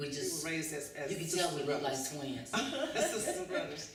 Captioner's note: laughter